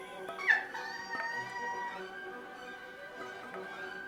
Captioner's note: squeel laughing